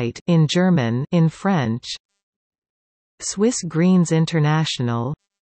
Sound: in German

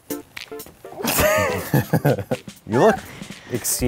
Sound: laughing

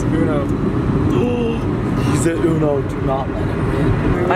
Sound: gasps

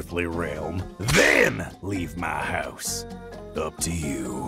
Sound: goofy playful music; whip cracks

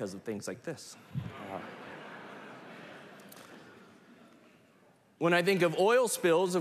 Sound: laughter

